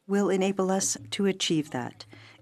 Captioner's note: speaking French